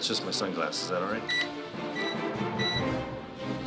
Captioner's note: beeps